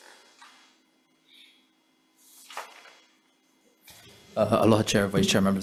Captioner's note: papers shuffling